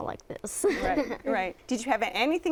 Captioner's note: laughter